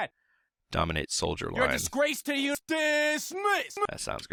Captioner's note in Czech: zvuky různých dialogů